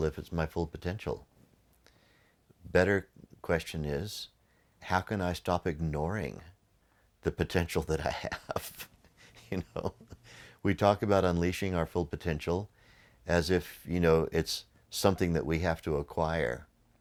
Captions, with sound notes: if it's my full potential? Better question is how can I stop ignoring the potential that I have? (laughs) We talk about unleashing our full potential as if it's something that we have to acquire.